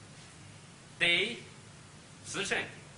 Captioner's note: speaks Chinese